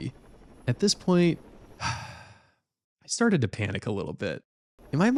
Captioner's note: sigh